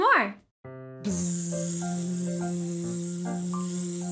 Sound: buzzing

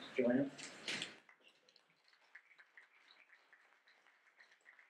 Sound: audience clapping

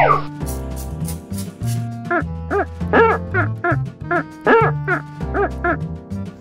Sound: liquid spraying; table squeaking

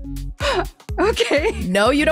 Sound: laughs

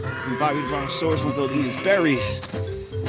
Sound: animal call in distance

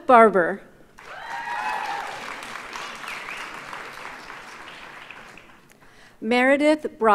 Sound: audience cheers and applauds

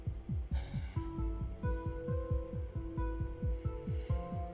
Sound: Chasity sighs

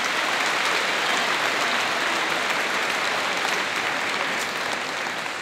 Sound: applause

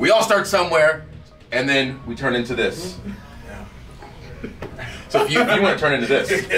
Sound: laugh

